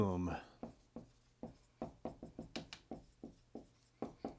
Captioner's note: pen scratching